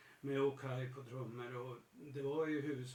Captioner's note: none